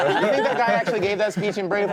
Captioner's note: group laughing